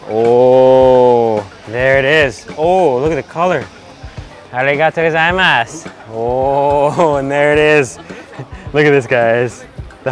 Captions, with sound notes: Oh, there it is! Ooh, look at the color! (speaks in foreign language) Ooh, and there it is! Look at this, guys.